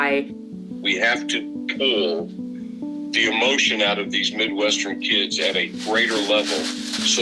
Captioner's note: via phone